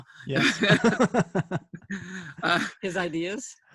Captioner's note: laughter